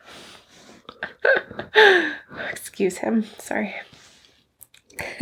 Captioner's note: laughing